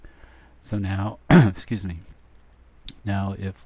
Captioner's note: clearing throat